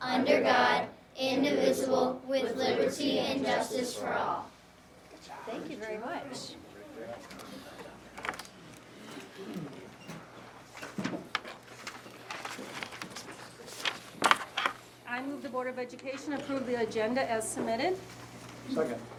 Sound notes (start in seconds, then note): 8.5 chatting; 8.7 rustling